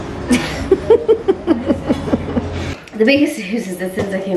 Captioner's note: laughs